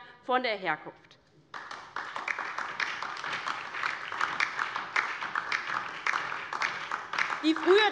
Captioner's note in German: Beifall DIE LINKE und vereinzelt SPD